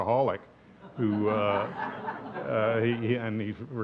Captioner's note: audience laughs